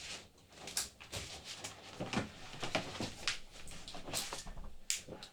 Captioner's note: Jacob Harper shuffling